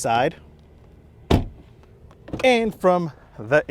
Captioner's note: door slams